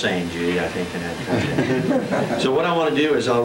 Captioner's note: laughter